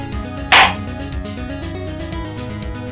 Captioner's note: gavel slams!